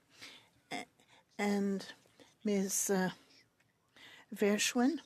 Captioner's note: speaking French